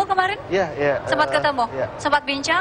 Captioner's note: non-english speech; non-english speech